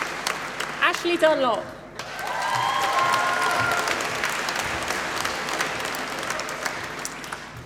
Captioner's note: applause